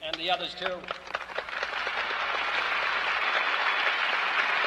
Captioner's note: applause